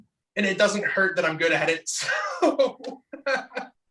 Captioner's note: laughs